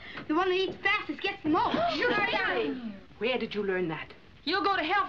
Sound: girls Gasps

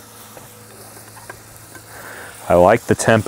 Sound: butter sizzling

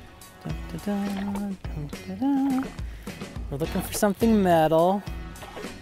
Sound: humming

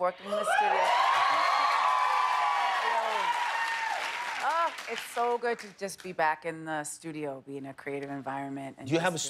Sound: cheers and applause

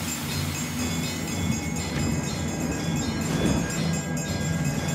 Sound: rhythmic chiming throughout

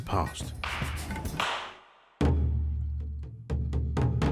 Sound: hands clapping; dramatic percussion music

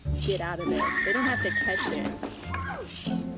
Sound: screamin

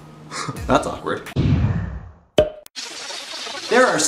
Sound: laugh

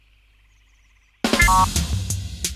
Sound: failure sound

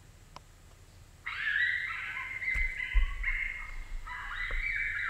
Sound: coyote pup animal call

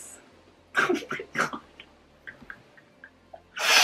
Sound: laughing

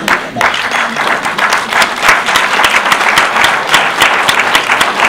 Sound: audience applause

